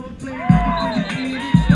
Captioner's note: cheering; whistle blowing